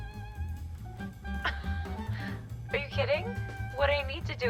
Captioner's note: scoffs